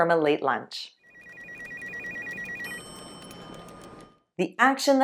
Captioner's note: phone ringing, typing